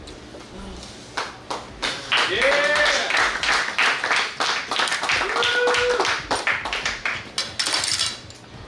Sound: clapping & Cheering

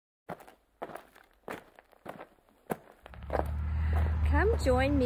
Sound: feet on gravel crunching

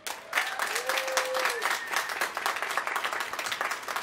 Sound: applause

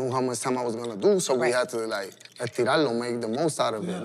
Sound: speaking Spanish

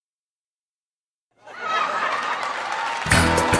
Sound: laugh track

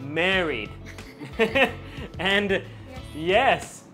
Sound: both laugh

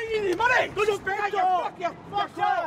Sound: arguing

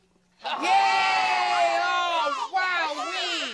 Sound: cheering

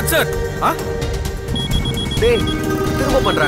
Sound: phone rings

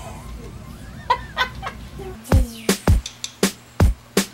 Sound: laughing; upbeat music

